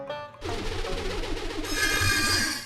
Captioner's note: pumpkin whooshing